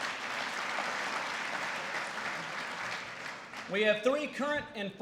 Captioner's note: applause